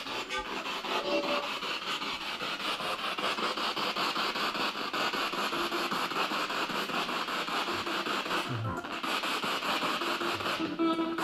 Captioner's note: radio noise from the spirit box